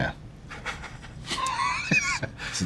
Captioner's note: laughs